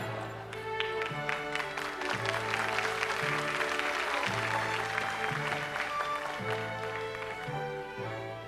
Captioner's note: applause